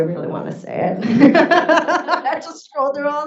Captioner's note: laughs